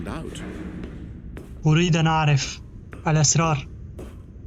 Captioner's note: banging; footsteps